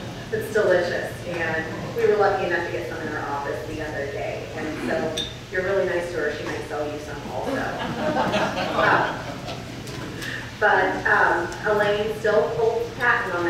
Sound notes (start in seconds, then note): 7.4 audience laughs